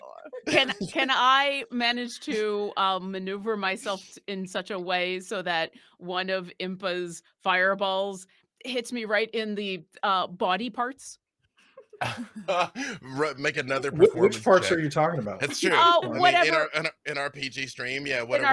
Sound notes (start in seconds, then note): 11.8 laughs